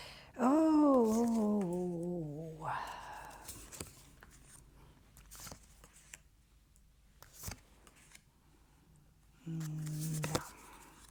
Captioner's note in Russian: вздыхает; тяжело вздыхает